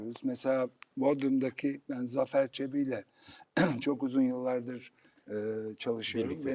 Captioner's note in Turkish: boğazını temizler